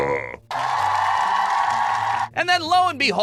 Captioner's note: ovation